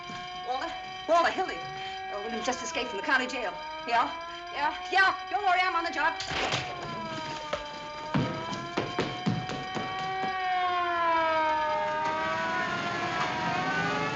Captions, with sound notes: Walter? Walter, Hildy. Earl Williams just escaped from the county jail. Yeah, yeah. Yeah! Don't worry. I'm on the job. (sirens continue wailing)